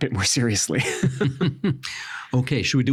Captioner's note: both chuckling